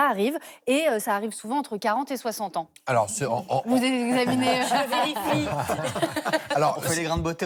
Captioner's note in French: rires